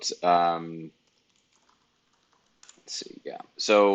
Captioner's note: keyboard keys clicking